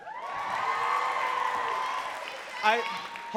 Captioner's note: crowd cheering and clapping